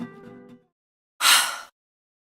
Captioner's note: sigh